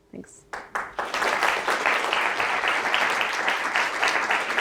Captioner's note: audience applauds